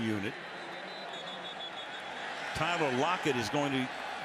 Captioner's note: whistle